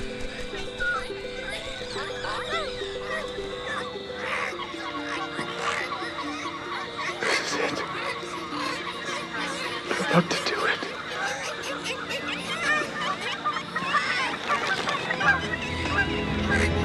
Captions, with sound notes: (Squawking grows louder) - This is it. - They’re about to do it.